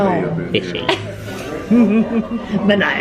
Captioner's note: both laugh